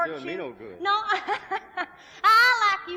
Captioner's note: laughs